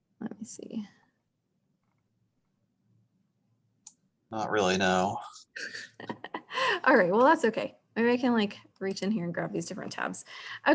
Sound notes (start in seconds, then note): 5.6 chuckles